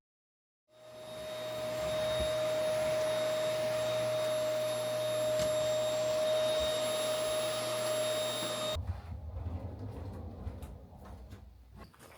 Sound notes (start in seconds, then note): 1.3 vacuum sound